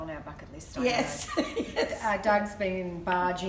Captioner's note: laughter